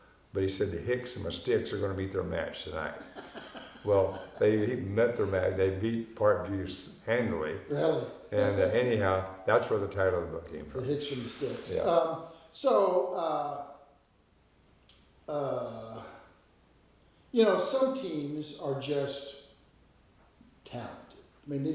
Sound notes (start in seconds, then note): 2.9 laughing; 7.7 chuckling